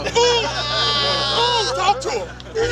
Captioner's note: laughing